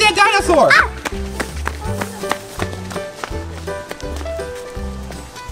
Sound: footsteps running

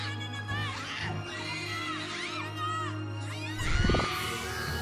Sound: screaming; Lando screaming

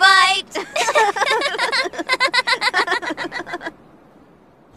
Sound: children are laughing

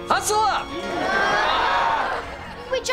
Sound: groaning

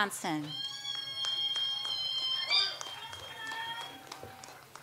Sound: audience applauds

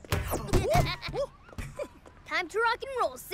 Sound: giggling

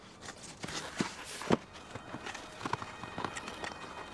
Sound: scraping

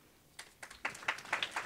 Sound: applause

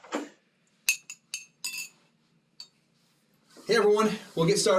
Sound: spoon rattling in cup more softly

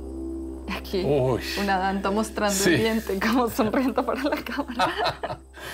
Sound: speaking in foreign language

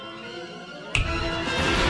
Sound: snaps fingers

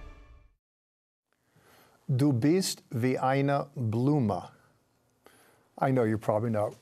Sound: speaking in German

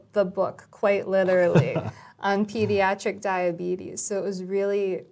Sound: laugh

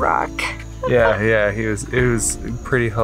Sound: laughing

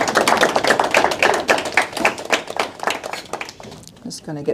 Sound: attendees applauding

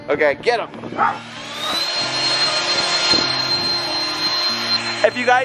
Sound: leaf blower whirring

